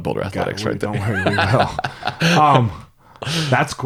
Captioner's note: laughs